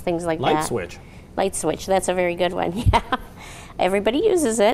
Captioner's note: laughs